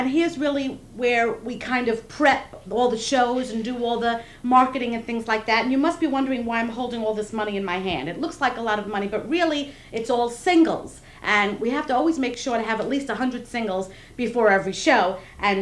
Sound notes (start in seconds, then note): none